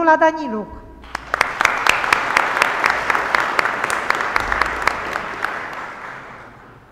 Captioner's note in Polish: oklaski